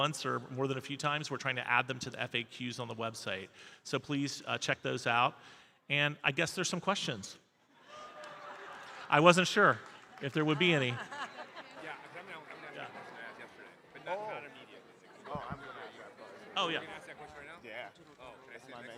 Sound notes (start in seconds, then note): 7.8 audience laughing; 11.8 audience chattering; 15.1 people chattering